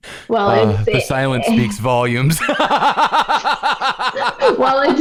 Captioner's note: laughter